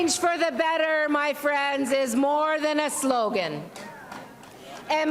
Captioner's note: applause